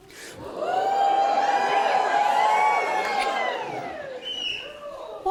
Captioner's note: audience reacts